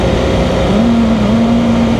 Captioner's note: engine